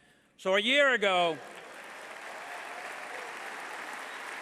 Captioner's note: applause